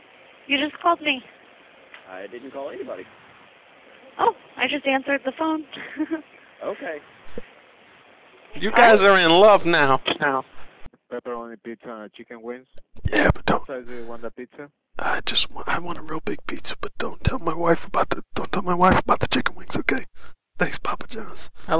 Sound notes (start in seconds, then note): 5.8 awkward laughter; 13.0 whispered; 15.5 whispered